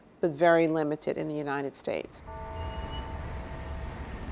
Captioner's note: bell tolling